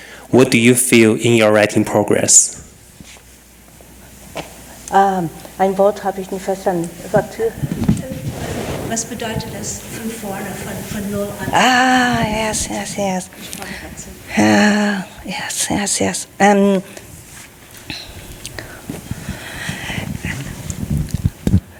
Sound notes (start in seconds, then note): 7.3 panelists speaking in foreign language